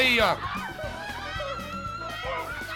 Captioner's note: yelling continues